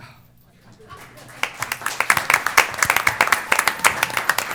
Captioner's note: applause